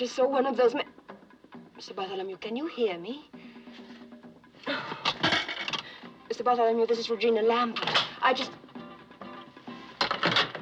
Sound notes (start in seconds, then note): 4.6 sighs; 5.2 coin Drops